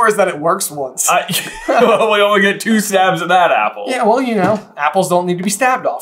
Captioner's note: laughs